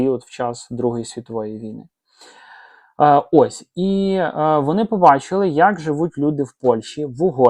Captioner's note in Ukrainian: сопіння